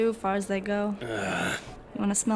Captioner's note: dismayed grunt